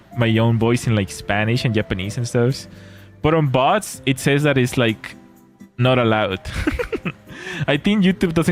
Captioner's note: laughter